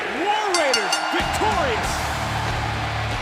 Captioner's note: bell ringing